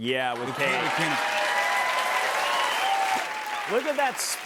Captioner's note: cheers and applause